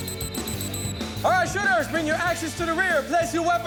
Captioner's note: whistles